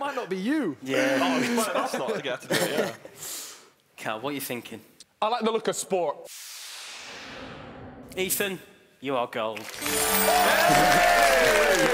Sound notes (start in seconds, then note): 6.4 whooshing; 9.8 cheering